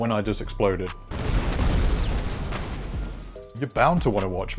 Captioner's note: roaring explosion